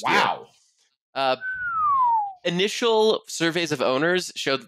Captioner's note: whistles